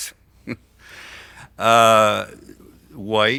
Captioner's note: laughs